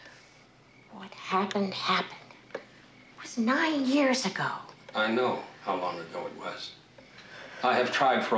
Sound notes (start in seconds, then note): 1.2 phone ringing